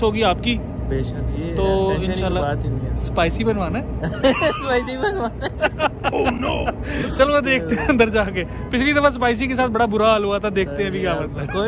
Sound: laughs

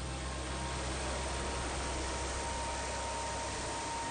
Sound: machine lightly whirring

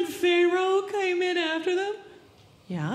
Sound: none

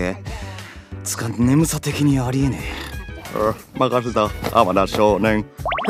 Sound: yawn

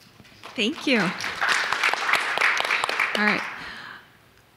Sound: audience clapping

